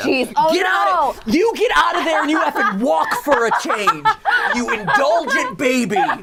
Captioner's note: yells